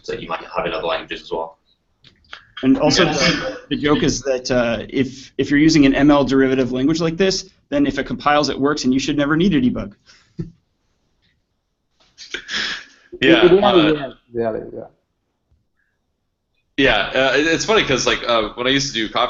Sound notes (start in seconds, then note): 13.2 chuckles